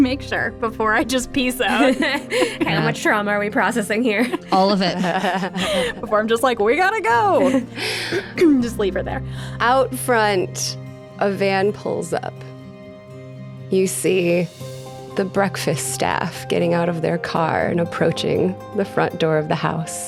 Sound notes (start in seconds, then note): 5.8 laughing